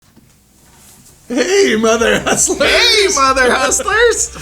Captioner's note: laughs